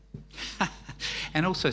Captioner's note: laughing